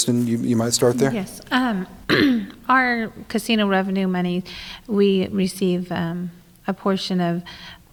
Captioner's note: clears throat